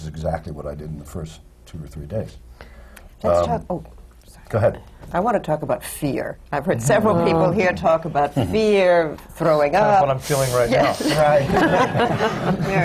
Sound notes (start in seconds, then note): 6.0 groans from the panel; 10.8 laughter